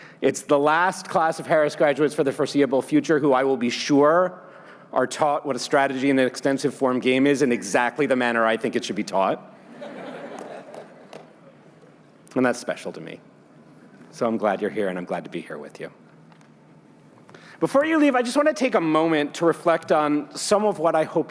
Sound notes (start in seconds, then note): 9.8 laughing